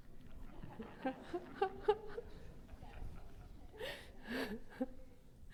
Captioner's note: and the audience laugh softly